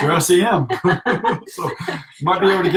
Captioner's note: laughter